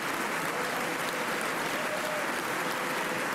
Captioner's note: applause